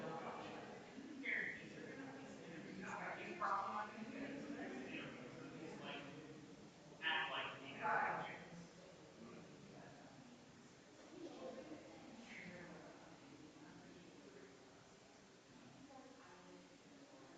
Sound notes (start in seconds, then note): 11.5 people chattering distantly continues